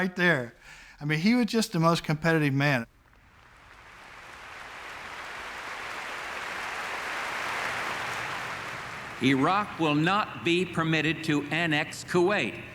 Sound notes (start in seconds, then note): 3.0 applause